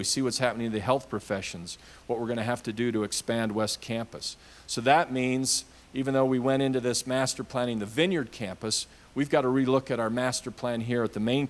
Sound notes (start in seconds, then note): none